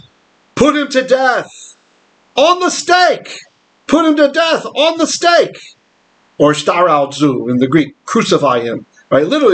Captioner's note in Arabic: باليونانية